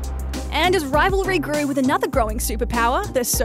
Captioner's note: none